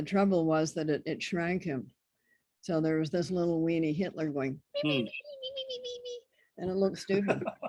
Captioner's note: squeaky noises